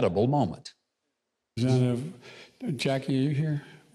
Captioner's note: mumbles quietly